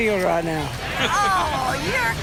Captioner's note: laughs